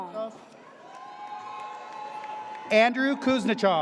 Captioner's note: audience cheers